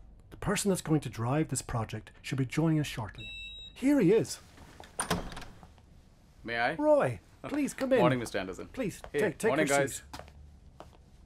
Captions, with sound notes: The person that is going to drive this project should be joining us shortly. (beep) - Here he is (door opens) -May I? -Roy! Please come in. -Morning Mr. Anderson... -Please take your seat Morning Guys!